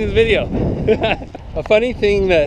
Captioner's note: laughing